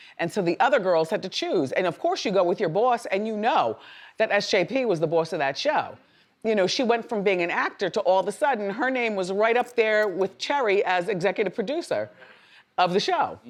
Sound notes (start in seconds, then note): none